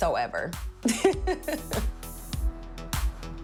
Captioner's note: laughs